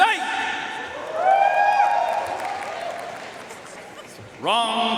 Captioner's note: audience cheering and applauding